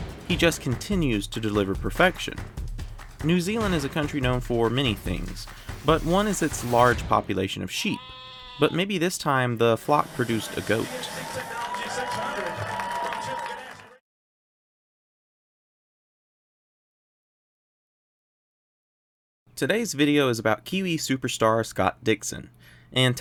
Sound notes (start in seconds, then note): 10.2 cheering